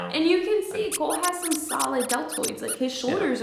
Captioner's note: plays squeaky sound